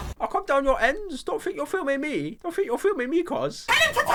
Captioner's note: pyro noises